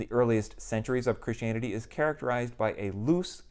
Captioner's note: none